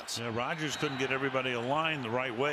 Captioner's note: cheering